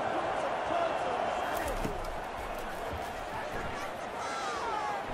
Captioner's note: crowd cheering